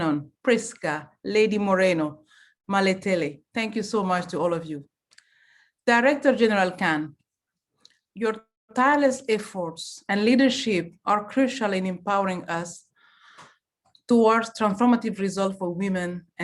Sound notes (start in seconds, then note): 3.8 French language